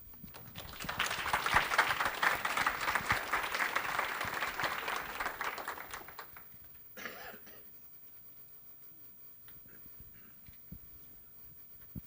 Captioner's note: applause